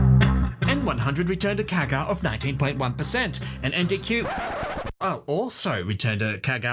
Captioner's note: record scratch